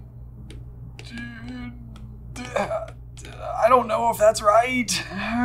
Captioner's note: markers scribbling rapidly; groaning worryingly